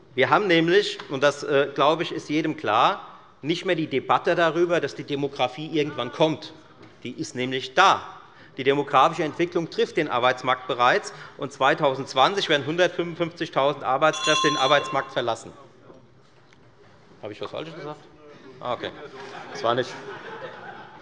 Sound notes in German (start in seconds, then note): 15.8 Zurufe von der Regierungsbank - Glockenzeichen des Präsidenten